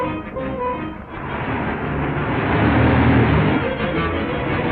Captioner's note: engine rumbling; frantic music